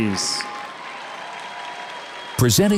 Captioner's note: audience cheers and applauds